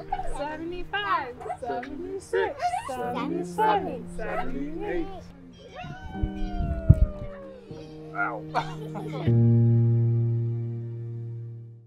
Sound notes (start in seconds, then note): 0.0 parents laughs; 5.6 mother cheering; 8.7 laughs; 9.1 gentle music